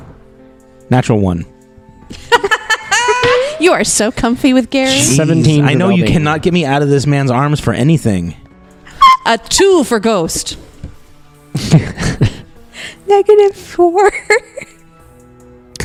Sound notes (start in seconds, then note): 2.1 laugh; 11.5 speaking quietly with laughter choking her; 11.5 laughs